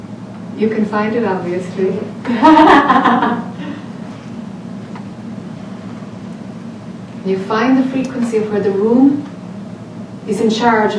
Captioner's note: laughs